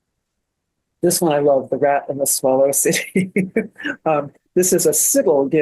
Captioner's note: laughs